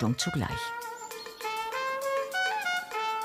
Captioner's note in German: Vogelzwitschern